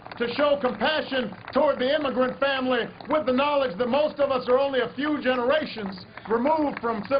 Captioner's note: applause